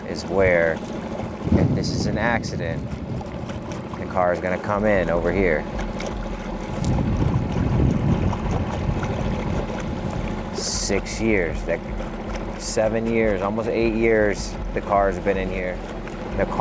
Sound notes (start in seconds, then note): 5.9 gentle music continues; 5.9 motor droning